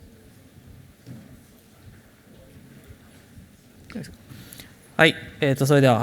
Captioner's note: silence